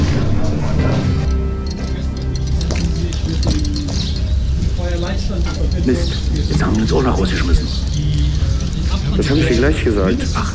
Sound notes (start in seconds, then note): 1.6 babble of voices, breeze